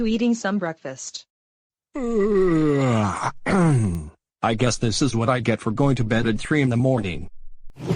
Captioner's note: yawning